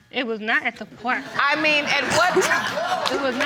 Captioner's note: audience laughing